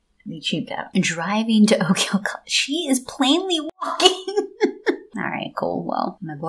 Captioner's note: laugh